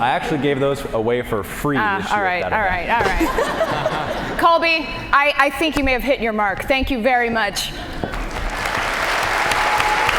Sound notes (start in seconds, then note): 3.0 laughter; 8.3 applause